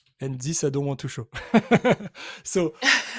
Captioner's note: laughs